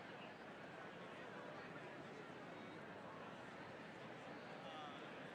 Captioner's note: attendees chattering continues